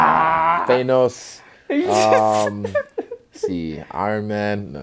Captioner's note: laughs